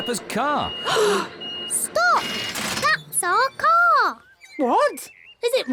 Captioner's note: all gasp